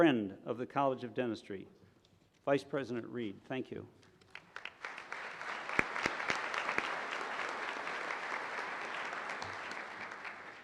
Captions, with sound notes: of the College of Dentistry. Vice President Reed, thank you. (applause)